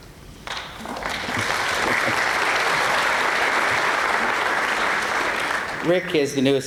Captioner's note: applause